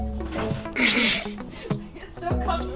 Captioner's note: man chuckles